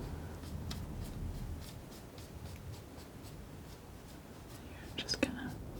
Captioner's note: scratching